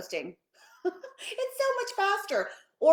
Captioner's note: laughing